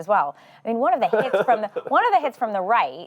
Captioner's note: laughing